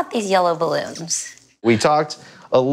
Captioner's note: balloon squeaking